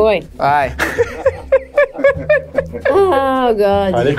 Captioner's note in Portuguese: risadas